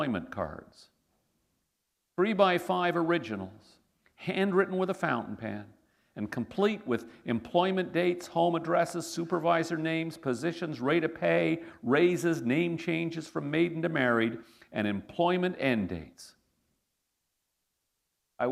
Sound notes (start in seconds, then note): none